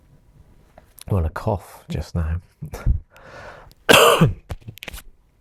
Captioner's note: laugh then coughs